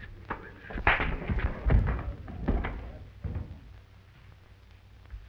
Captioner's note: punch cracking